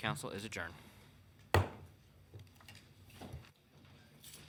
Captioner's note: gavel pounds